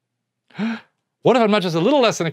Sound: gasps

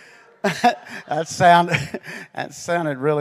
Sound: heartedly laughs; chuckles

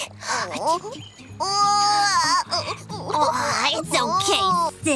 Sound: light playful music; glimmer crying

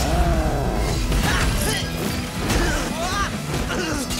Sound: grunting and shouting

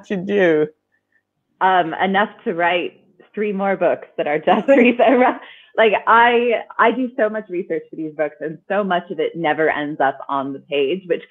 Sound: laughing

